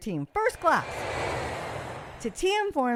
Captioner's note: plane flying sound